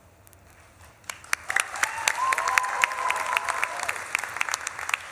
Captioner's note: audience claps and cheers